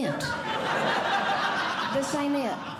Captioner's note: audience Laughing